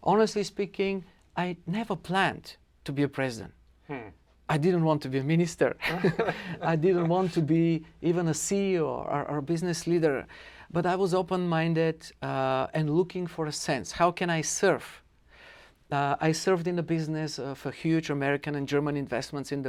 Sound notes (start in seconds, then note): 5.8 laughter